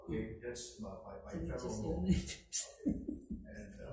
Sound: laughs

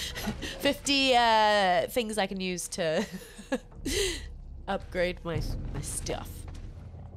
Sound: laugh

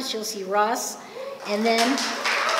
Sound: applause and cheering

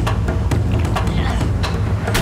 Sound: groaning

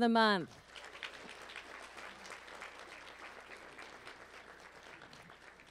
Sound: applause

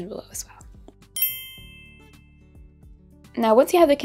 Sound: bell chiming

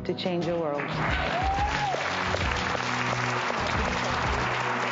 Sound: audience cheering

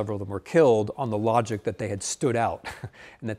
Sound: chuckling

